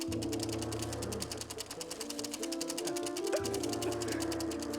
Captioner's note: all Chuckling